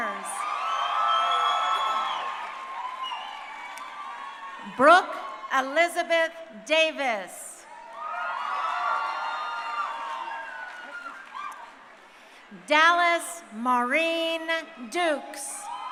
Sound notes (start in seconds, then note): 0.0 crowd cheering; 7.6 crowd cheering